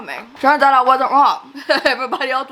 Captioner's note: laughs